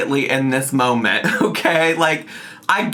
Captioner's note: laughs